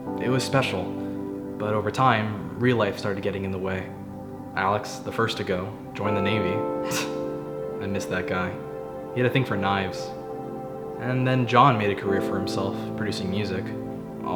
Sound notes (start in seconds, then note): 6.8 Ethan scoffing